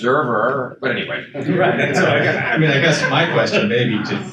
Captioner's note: attendees chuckle